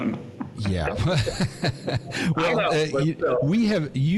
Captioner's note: laughs